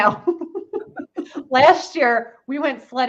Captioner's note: laughs